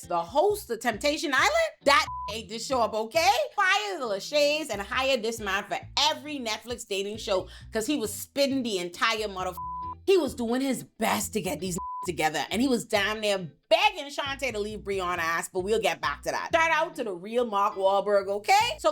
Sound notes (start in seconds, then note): 1.9 beep; 9.5 beep; 11.7 beep